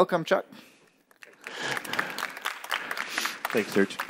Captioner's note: applause